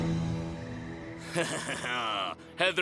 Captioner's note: laughing